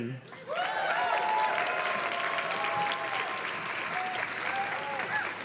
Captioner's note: audience cheers and claps